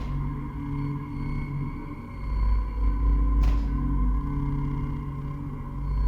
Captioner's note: eerie sounds